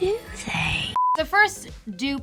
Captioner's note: beeping